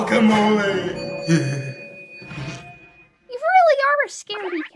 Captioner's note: Whisper shivers